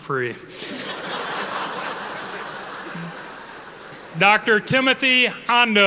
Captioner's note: audience laughing